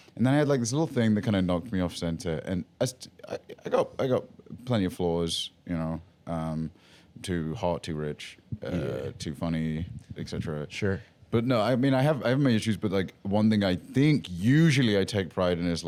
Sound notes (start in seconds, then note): none